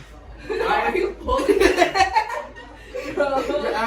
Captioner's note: laughter